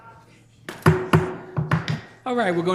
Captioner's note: gavel striking